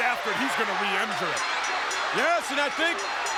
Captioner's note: bell rings